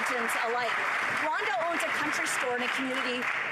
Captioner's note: applause